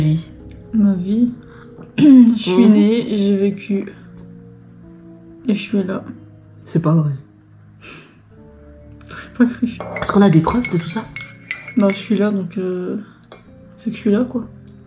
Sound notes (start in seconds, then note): 1.4 clears throat; 4.0 suspense